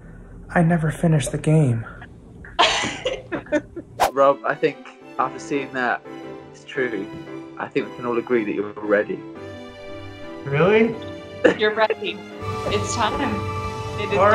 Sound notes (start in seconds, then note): 2.5 laughter; 10.1 inspiring music